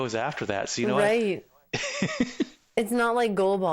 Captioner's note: laughing